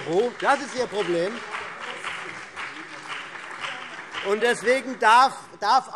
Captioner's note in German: Beifall CDU und BÜNDNIS 90/DIE GRÜNEN